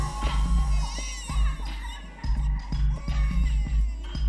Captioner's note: baby crying